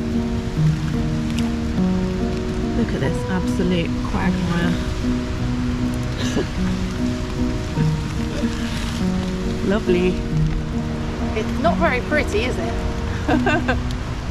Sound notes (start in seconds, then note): 0.0 mud splat; 6.1 laughs